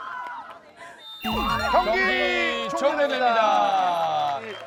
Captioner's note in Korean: 호루라기 소리